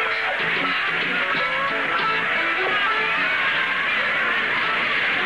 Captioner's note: crowd Cheering